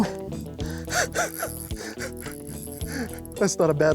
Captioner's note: laughs